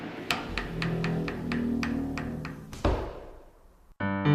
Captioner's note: sound of coffin slowly opening